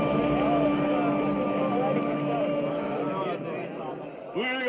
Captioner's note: indistinct chattering